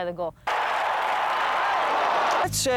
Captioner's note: cheering